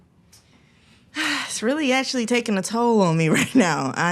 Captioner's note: sighs